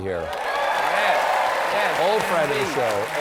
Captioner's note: applause